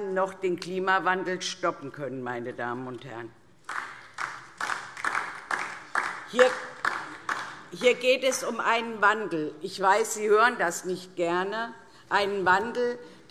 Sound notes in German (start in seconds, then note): 3.6 Beifall DIE LINKE